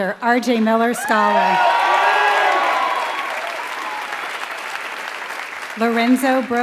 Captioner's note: applause